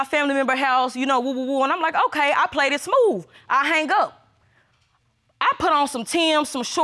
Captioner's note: stutters